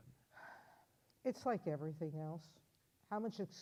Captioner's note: sighs